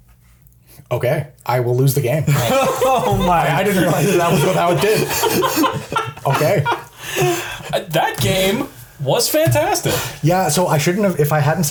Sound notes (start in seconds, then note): 2.2 laughs